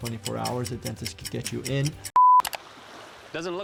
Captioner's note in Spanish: el reloj hace tictac; clic